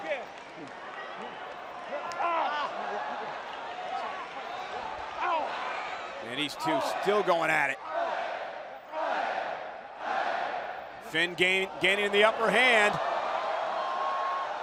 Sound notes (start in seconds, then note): 6.3 fans chanting